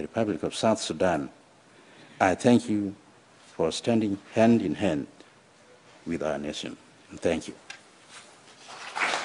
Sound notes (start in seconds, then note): 8.6 applause